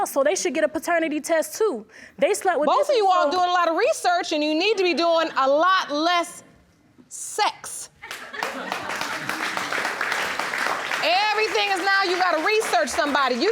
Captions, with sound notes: "so they should get a paternity test, too. They slept with..." Both of you are doing a lot of research and you need to be doing a lot less sex. (AUDIENCE APPLAUDS) Everything is, now, you gotta research somebody.